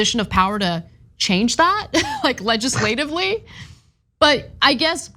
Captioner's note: laugh